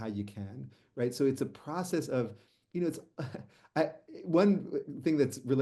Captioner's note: chuckles